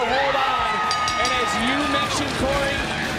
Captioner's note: bell ringing